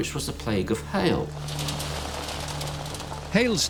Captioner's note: beating hail